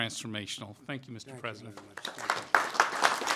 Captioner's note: applause